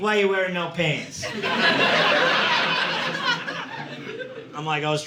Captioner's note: audience laughing